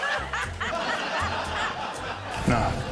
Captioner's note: laughter